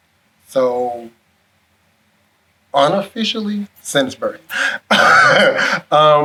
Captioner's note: laughs